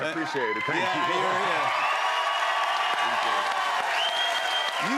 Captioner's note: cheers and applause